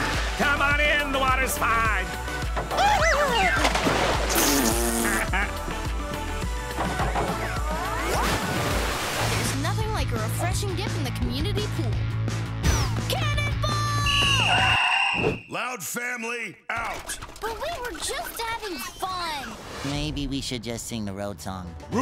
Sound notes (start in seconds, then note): 2.1 splashing; 7.9 splashing